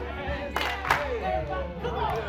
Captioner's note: all clapping hands